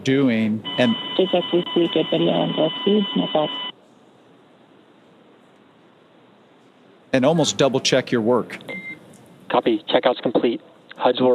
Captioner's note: beep